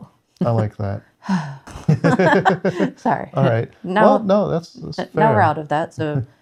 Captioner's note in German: seufzt